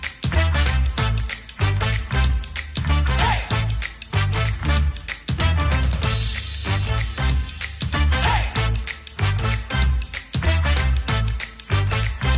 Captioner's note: cheering and applause